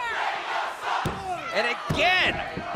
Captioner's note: fans chanting